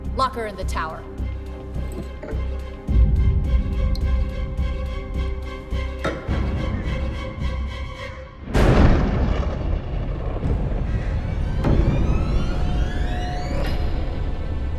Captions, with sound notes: Lock her in the Tower. (dramatic music) (thunder crashes) (eerie music)